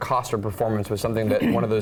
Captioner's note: cough